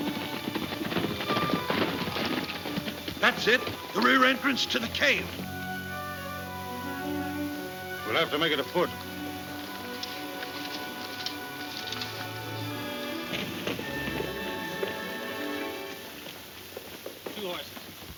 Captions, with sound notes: - That's it, the rear entrance to the cave. - We'll have to make it afoot. (horses hooves clomping) - Two horses.